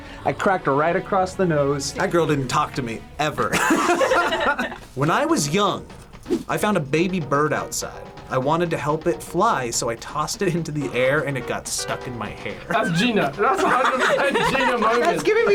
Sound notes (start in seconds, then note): 3.5 group laughs